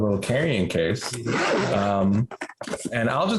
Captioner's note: case unzipping